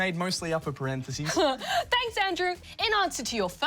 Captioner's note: laughs